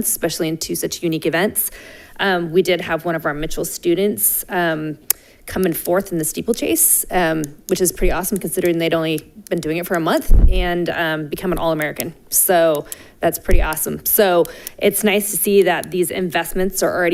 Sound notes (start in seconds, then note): none